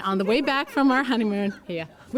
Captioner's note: laughter